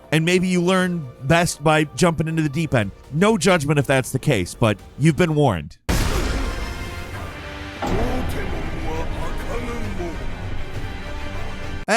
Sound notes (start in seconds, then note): 5.9 spear thudding; 7.9 speaking in foreign language